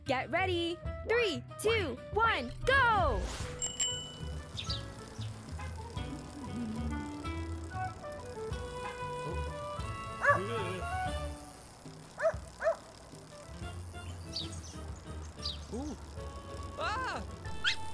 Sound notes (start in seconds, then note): 3.5 bell dinging; 4.8 birds chirping; 10.2 dog barking; 10.3 bike tires clicking